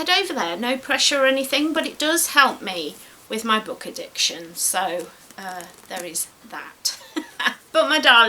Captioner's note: giggles